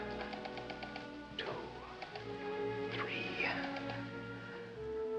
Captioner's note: whispers